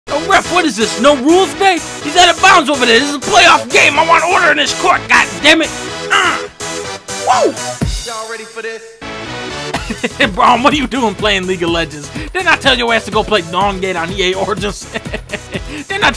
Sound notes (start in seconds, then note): 6.1 grunt; 9.8 laughing